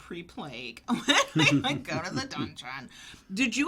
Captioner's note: laughs